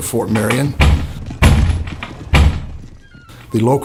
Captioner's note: banging on door